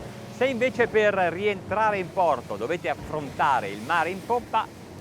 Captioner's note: speaking in Italian